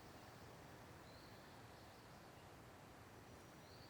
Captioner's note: birds chirping